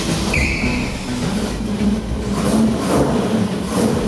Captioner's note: engine fires and revs